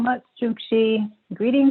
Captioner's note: non-english speech